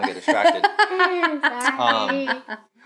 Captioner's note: laughing